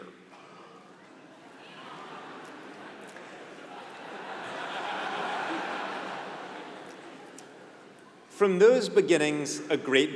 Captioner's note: laugh